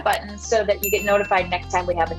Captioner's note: clicking sound effect; bell ringing